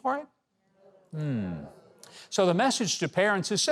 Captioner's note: audience murmurs